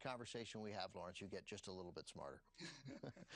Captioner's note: both laugh